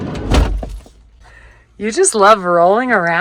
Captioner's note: door slams